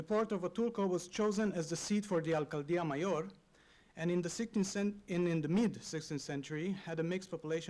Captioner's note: spanish